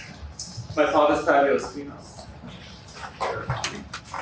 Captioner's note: sounds of people moving around